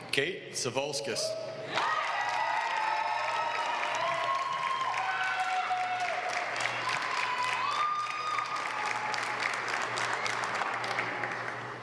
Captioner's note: applause